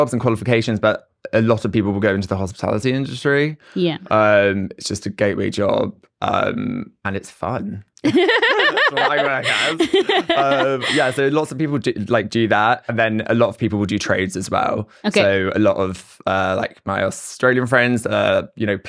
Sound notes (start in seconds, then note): 8.0 both laugh